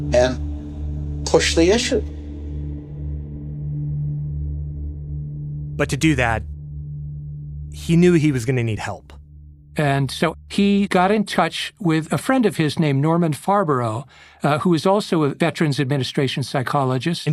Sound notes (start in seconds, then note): none